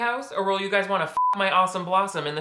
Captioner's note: beep